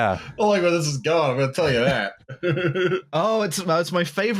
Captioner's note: laughs